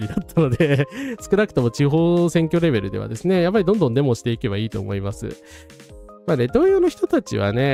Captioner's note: laughs